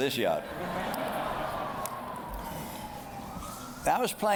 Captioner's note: laughter